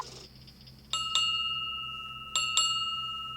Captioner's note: bell rings